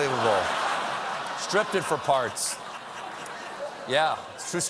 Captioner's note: laughter